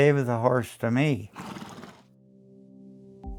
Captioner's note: snorts